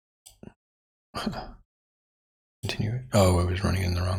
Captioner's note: blank Audio